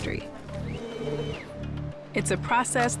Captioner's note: machinery whirring